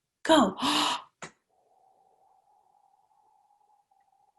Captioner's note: inhales deeply